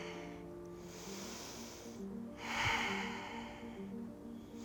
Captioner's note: deep breathing